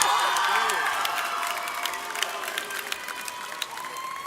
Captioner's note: audience cheers